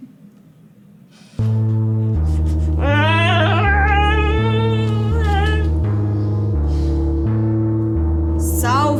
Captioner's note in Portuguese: alarme sinistro